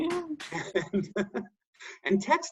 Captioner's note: laugh